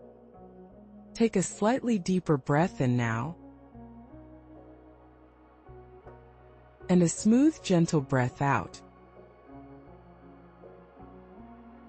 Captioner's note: pause; pause